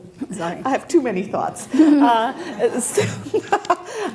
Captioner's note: laughs